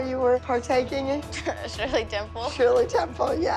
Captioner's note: laughs